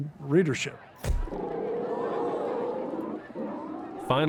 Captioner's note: crowd clamoring, bear growls